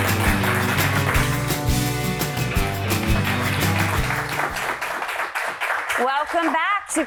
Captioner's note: audiedemoclapping